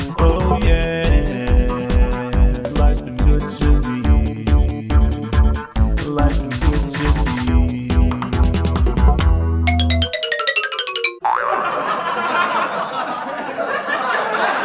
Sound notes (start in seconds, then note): 9.7 cartoon sound effects; 11.4 laughter